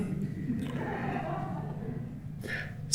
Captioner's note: laughter